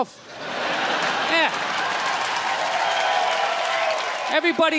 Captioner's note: crowd laughs